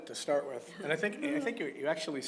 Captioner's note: laugh